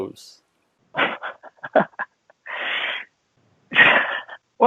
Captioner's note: laughs